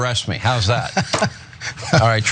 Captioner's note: laugh